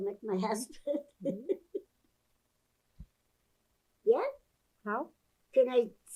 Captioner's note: laughing